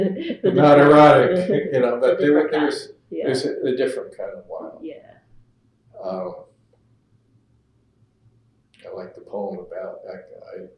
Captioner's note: laughter